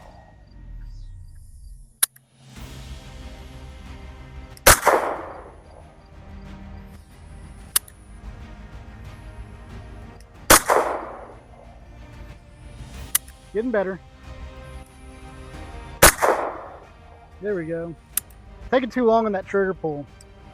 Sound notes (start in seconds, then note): 2.0 gunshot; 16.0 gunshot